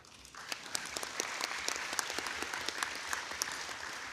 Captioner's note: audience applauding